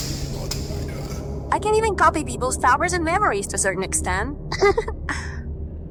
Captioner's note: giggle